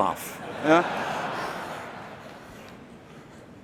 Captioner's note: laughter